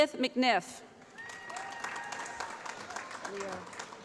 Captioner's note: applause